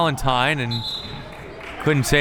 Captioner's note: whistle tweeting